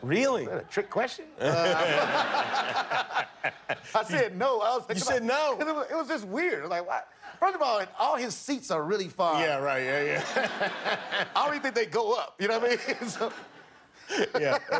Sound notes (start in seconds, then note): 1.4 laughter